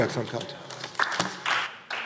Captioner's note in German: Beifall DIE LINKE - Zuruf Freie Demokraten: Oh!